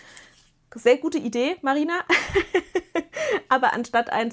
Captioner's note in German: gelächter